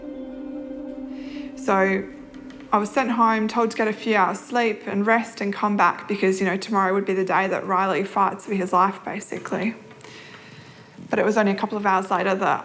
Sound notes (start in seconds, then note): none